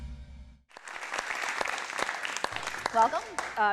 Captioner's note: audience applauding